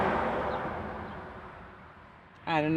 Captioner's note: car engine revving